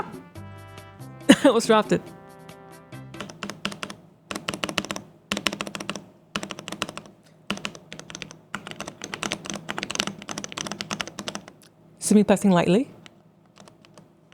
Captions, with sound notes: Almost dropped it. (keyboard clicking) See me pressing lightly.